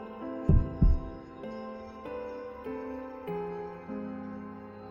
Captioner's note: thump